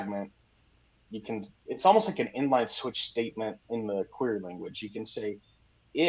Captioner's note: none